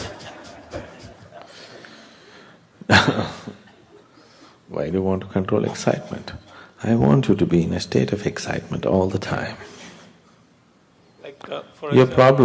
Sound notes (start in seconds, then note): 0.0 laughter; 0.0 laughs